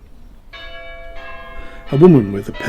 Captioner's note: bell begins to chime the hour